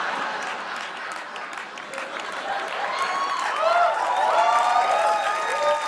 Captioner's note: cheers and applause